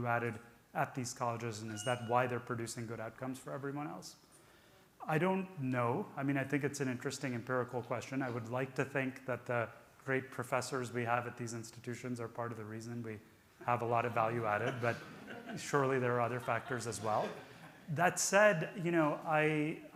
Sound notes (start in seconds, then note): 14.2 audience laughing